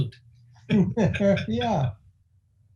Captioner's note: laughing